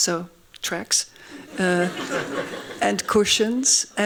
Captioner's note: laughing